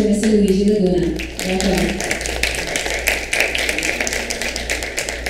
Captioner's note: audience applauds